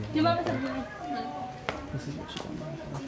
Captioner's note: speaking in foreign language